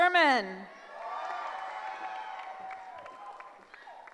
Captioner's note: cheering